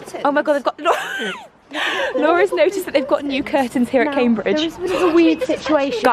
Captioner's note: laughs